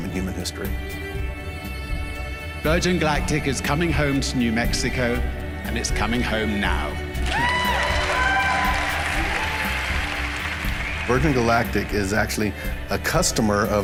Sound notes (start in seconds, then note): 7.2 cheering